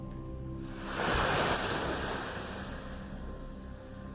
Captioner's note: wave crashes